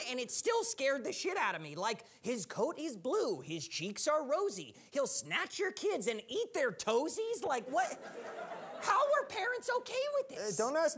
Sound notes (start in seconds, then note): 7.6 audience laughing